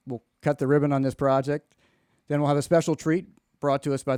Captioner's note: none